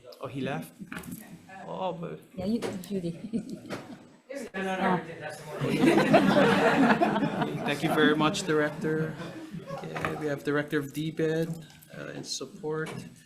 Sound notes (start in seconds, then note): 4.3 people chattering; 5.5 people laughing